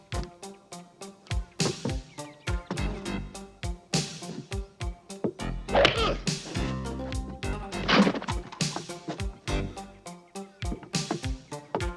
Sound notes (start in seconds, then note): 5.9 shouting